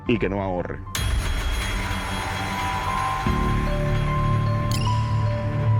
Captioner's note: shattering